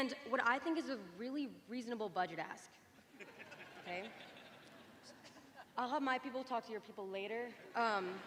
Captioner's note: laughter